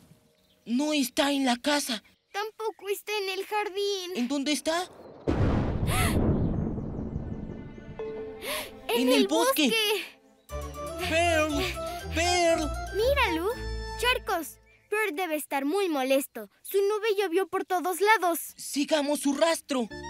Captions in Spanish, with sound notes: -¡No está en la casa! -¡Tampoco está en el jardín! ¿En dónde está? [Sonido de relámpagos] -¡En el bosque! -¡En el bosque! -¿Pearl? ¿Pearl? -Mira, Lou, charcos Pearl debe estar muy molesto. Su nube llovió por todos lados. ¡Sigamos su rastro!